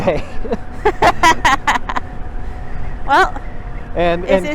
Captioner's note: laughing